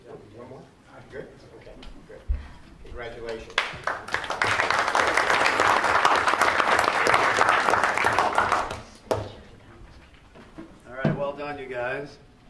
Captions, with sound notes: Congratulations. (applause) >>Alright, well done you guys.